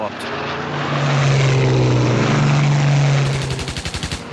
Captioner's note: aircraft engines roar; gunshot fire